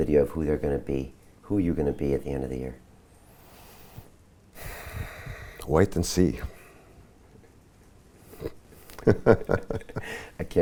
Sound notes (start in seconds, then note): 4.6 sighs; 8.3 both laugh